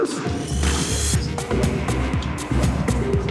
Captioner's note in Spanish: Exclamaciones